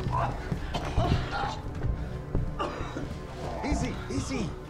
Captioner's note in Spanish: Gimiendo; Tosiendo